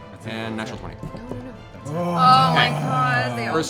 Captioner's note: groaning